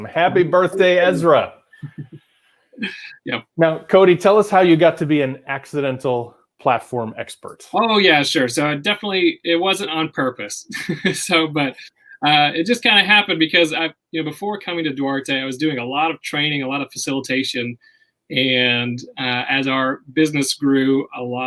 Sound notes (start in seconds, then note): 1.8 laughing; 10.6 laughs